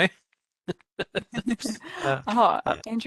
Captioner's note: laughter